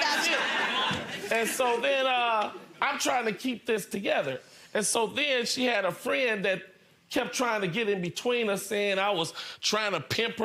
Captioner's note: laughing